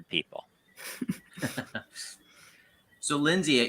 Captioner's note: laughs